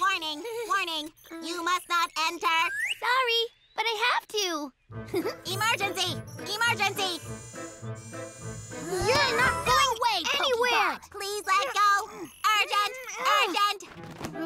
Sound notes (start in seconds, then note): 5.1 giggles; 11.6 both grunting